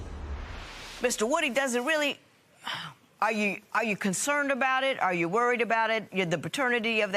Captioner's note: sighs